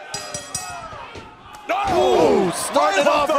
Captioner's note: crowd chatter; bell ringing